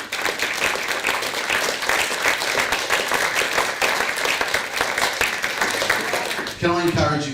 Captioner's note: applause